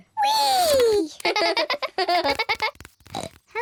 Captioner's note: both giggle; snorts